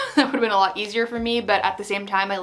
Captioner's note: laughing